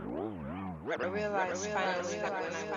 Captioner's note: echos